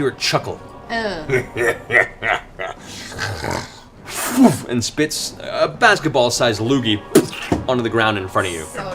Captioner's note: chuckles